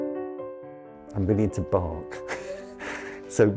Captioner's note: laughs